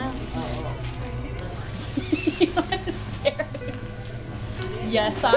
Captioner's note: laughing